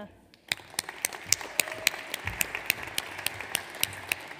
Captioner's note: audience applauds